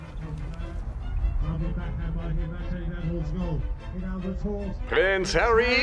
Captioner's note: sports announcer speaking softly; voiceover